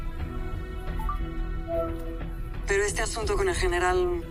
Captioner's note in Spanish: Pitido